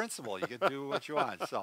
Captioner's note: laughs